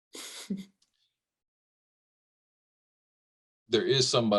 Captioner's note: lady chuckles